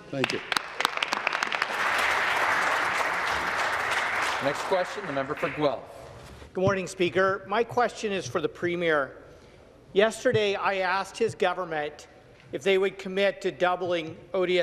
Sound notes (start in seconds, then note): 5.6 applause